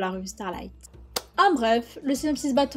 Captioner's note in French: clap